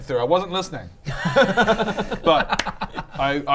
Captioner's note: unsurprised giggles